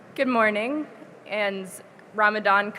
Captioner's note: none